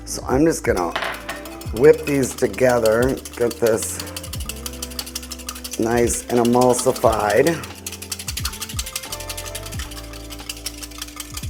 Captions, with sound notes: So I'm just gonna whip these together. Get this nice and emulsified. (whisking)